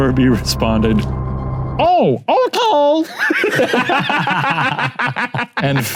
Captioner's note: laughs